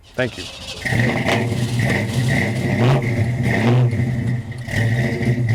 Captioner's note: rumbling powerful motor sound